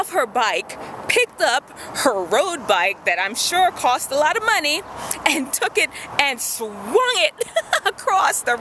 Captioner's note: laughs